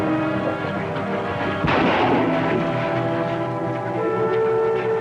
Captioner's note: gunshots